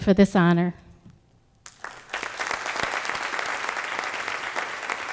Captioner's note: applause